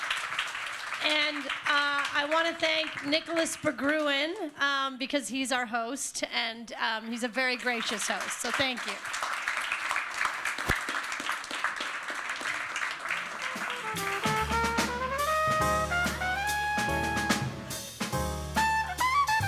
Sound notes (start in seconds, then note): 9.1 applause